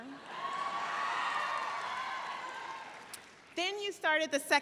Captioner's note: audience cheering